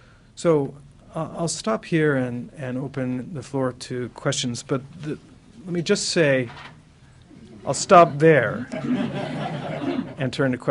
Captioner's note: laughter